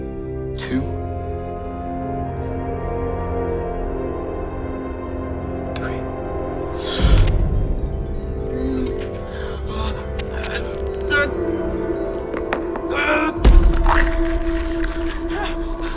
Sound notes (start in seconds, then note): 7.0 skin being punctured; 8.4 gasp of pain; 8.5 painful cracking